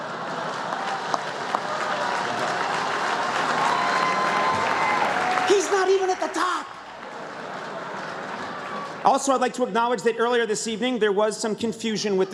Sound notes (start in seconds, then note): 1.2 laughter; 2.1 applause; 7.1 laughter